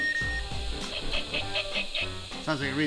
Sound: buzzer

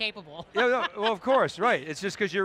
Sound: laughing

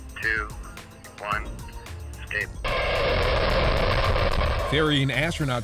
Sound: rocket noise

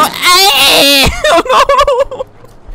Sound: laughs

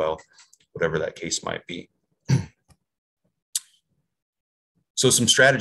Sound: clears throat

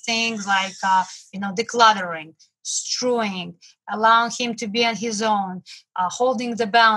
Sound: murmurs

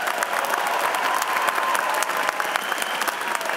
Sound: cheers and applause

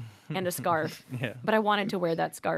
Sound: laughs

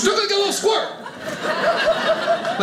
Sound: audience laughing

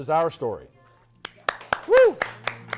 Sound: applause

